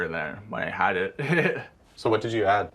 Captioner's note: laughing